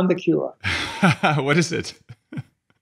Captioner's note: laughing